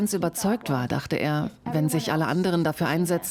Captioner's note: speaking in a foreign language